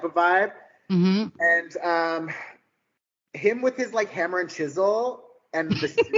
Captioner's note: laughing